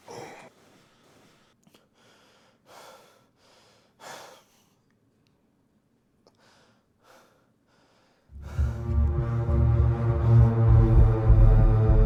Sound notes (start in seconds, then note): 2.2 Jesse breathing heavy; 8.3 dark ominous music